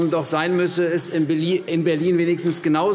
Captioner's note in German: none